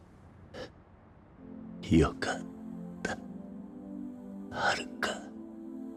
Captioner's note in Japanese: 鼻息